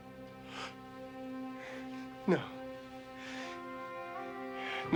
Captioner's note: laughs